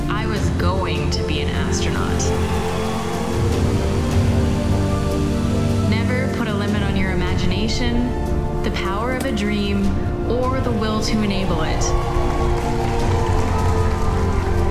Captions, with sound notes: I was going to be an astronaut. (applause) (inspiring music) Never put a limit on your imagination, the power of a dream, or the will to enable it. (applause)